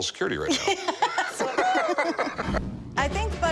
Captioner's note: laughing